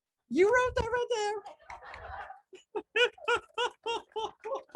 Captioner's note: laughs